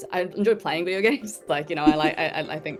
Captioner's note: Ruby chuckles; chuckles